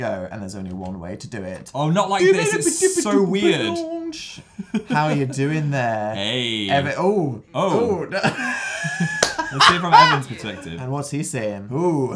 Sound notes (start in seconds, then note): 2.2 laughs; 8.3 laughs and claps